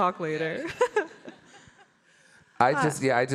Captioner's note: chuckles